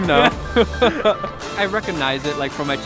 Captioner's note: laughing